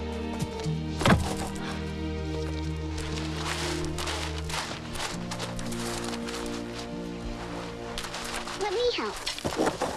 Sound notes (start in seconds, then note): 0.9 box thuds; 2.2 soil scraping